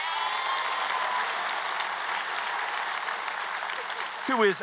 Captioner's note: applause